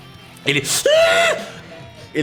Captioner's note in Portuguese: grunhidos de dor